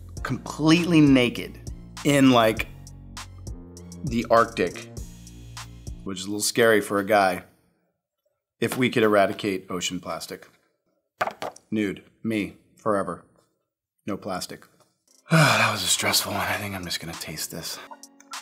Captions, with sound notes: completely naked in like, the Arctic, which is a little scary for a guy, if we could eradicate ocean plastic. Nude, me, forever. No plastic. (sighing) that was a stressful one I think I'm just gonna taste this.